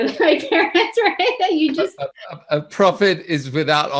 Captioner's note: laughs